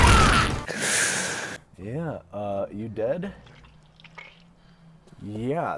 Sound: inhales; slippery sound

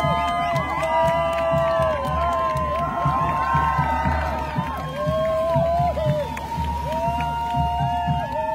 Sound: cheering

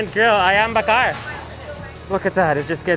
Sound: speaks in foreign language

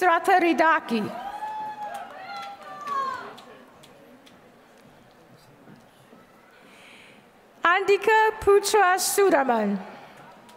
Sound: applause; applause

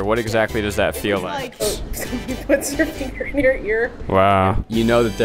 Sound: laughs

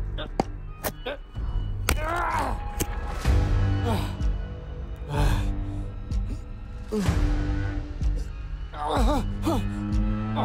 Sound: heavy breathing struggling

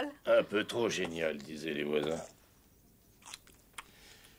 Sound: munching

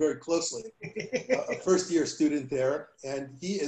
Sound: laughter

